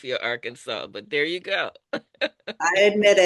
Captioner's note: laughs